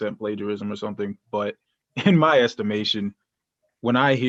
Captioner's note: laughter